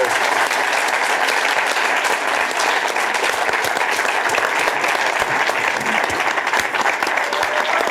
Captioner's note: applause continues